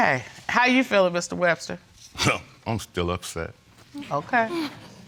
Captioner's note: scoffs